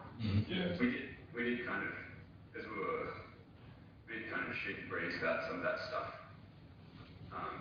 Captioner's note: audio distorts